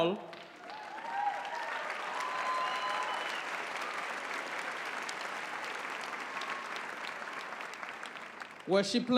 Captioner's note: applause